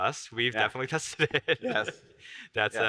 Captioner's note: laughs